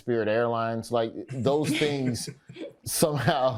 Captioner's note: panelists laughing